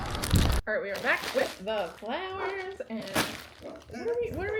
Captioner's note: puppy background barks